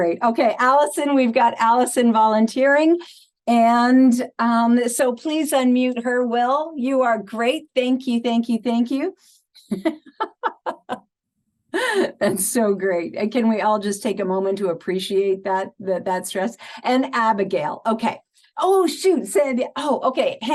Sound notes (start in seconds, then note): 9.6 laughing